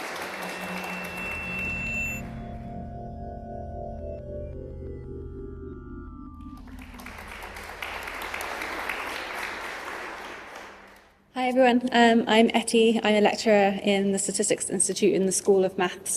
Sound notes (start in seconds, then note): 0.3 drone-like music; 6.4 applause